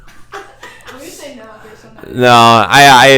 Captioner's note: laughs from bandmembers